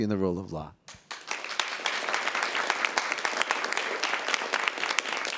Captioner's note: audience applauds